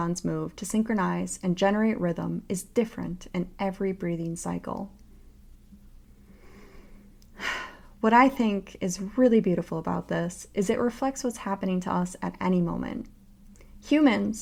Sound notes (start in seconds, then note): 6.1 breathes in and out